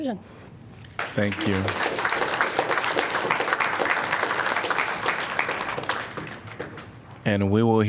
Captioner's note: applause